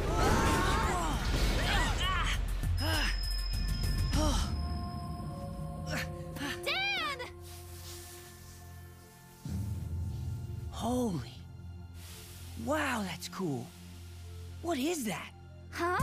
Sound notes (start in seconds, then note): 0.2 crashing; 0.2 shouting; 2.9 breathing heavily; 11.4 sizzling